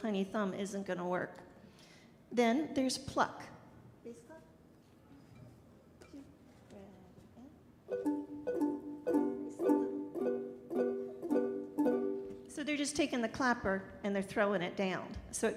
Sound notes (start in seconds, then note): 4.2 speaking softly; 8.0 soft bells tolling